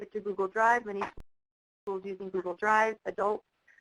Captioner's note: clap